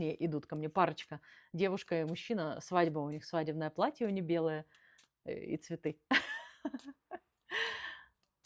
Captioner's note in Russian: смех